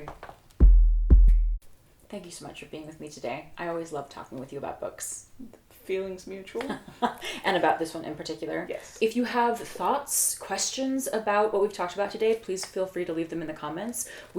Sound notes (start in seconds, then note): 6.7 laughs